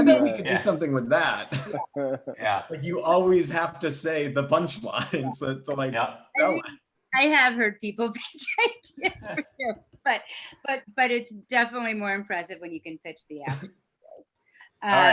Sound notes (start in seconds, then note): 8.9 chuckles